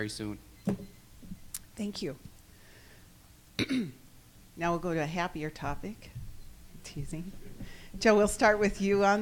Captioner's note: clears throat